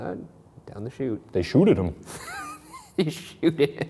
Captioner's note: laughing